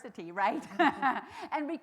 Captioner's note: chuckles